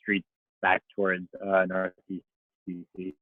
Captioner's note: murmurs